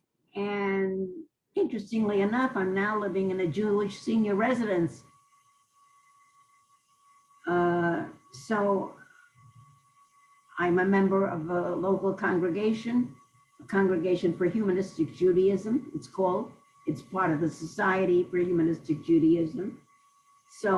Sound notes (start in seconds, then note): 0.0 pauses for 3 seconds; 4.8 pauses for 3 seconds